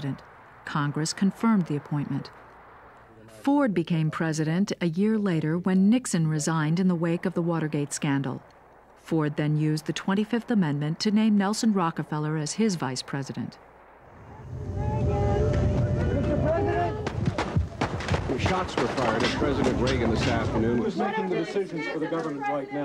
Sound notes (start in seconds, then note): 17.0 gunshots